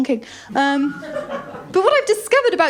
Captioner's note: laughter